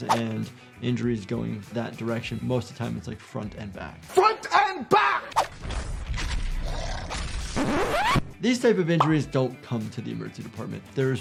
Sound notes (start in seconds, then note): 5.4 bones crack; 6.6 creature growls